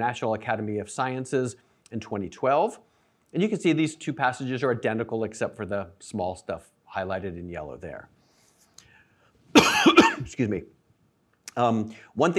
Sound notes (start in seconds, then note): 9.5 coughs